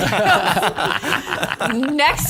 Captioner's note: laughter